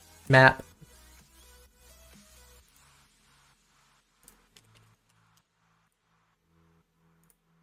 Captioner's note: typing